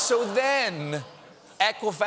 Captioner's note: audience reacts